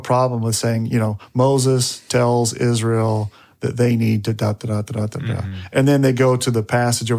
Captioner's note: babbles